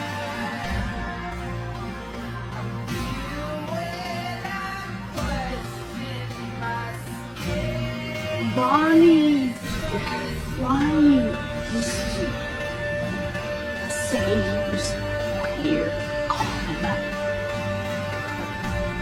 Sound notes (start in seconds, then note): 16.4 slur